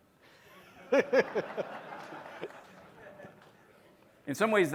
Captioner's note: laughter